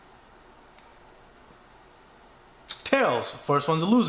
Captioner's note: soft clinking